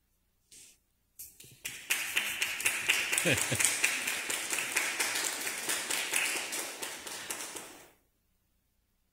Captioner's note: clap